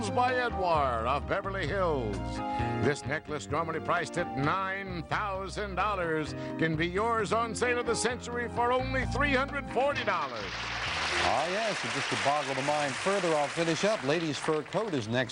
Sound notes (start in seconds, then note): 8.2 applause